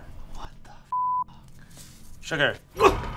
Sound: beep

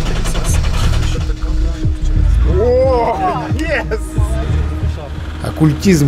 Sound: шум двигателя

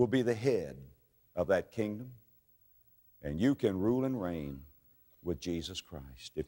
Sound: none

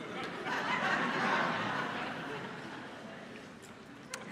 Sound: congregation laughing

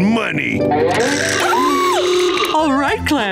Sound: screaming

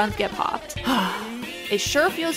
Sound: sigh

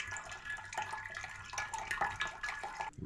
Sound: dripping sounds

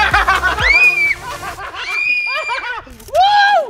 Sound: laughter; screaming

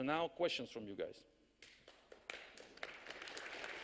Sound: audience applause

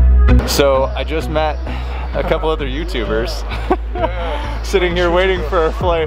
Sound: laughs

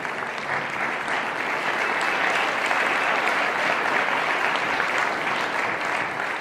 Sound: audience applauding intensifies

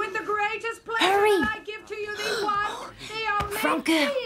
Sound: gasps

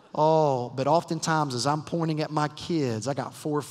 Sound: none

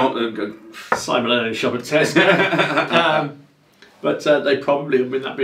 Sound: laughing

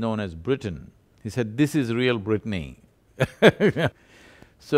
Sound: laughs

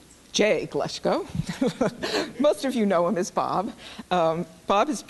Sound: laughs

